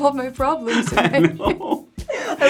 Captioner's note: laugh